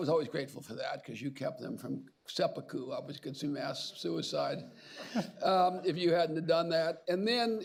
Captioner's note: laughter